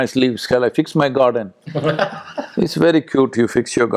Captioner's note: Tanmay Bhat laughs